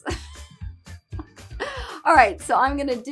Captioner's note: laughs